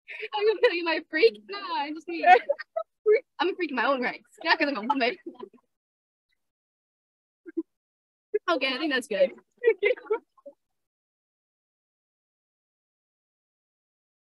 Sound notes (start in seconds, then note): 0.0 laughs; 2.2 laughter